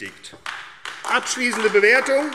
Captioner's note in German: Beifall AfD